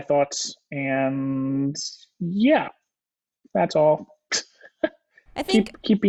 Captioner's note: laughs